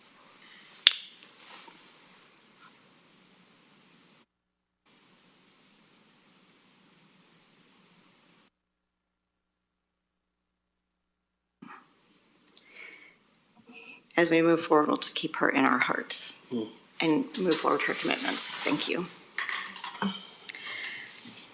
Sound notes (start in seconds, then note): 3.5 moment of silence